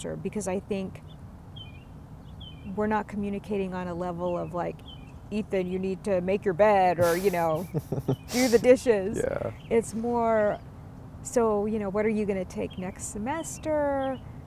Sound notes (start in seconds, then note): 7.0 chuckling